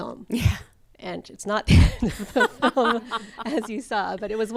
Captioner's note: laughs